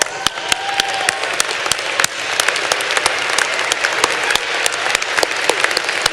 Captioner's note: applause